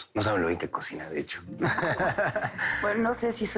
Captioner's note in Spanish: Risas